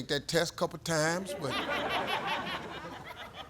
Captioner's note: audience laughs